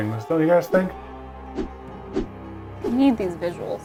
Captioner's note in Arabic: تحرك الهواء